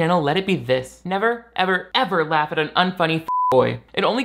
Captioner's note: beep